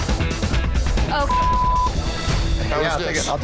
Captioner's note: upbeat dramatic music; beeps